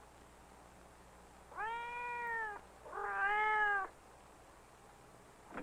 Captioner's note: cat meowing